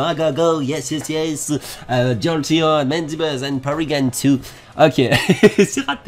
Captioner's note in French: awkward english accent